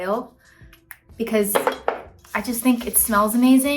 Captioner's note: bottle clatters